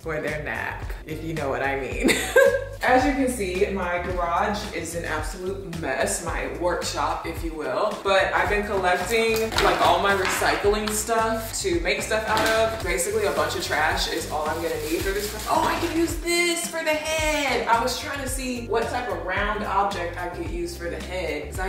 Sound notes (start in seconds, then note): 2.4 laughs